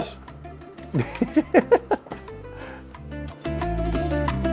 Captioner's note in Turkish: kahkaha